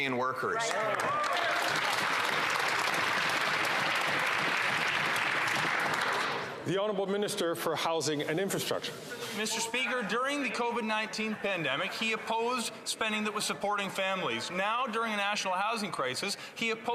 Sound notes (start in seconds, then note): 5.0 some Applause